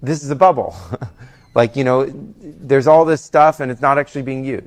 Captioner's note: laughs